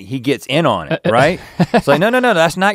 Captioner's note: chuckles